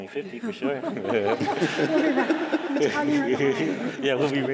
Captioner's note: laughter